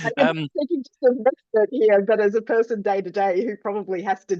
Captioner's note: laughs